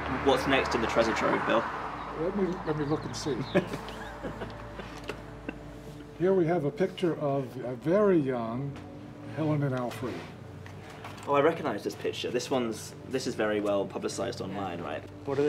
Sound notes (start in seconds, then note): 3.4 laughs